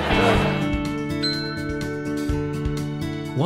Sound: sound of a bell ringing

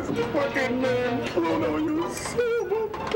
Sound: crying

